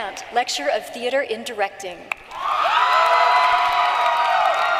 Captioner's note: applause